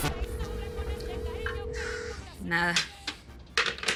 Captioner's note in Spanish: Suena el celular